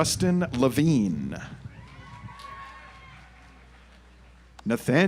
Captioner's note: audience applauds